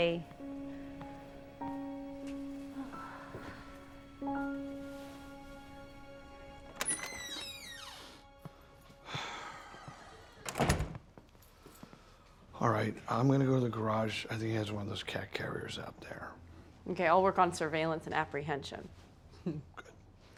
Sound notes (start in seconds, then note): 1.2 reflective music; 6.8 door squeaking open and slamming shut